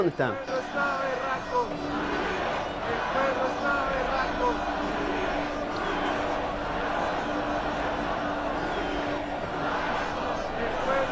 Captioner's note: people chanting